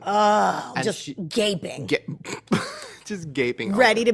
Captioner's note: laughs